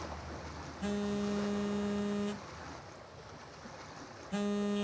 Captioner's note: phone buzzes